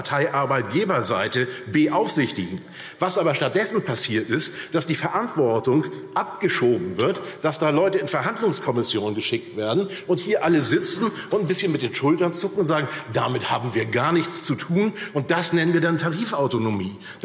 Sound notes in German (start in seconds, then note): none